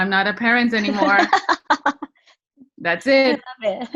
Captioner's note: laughs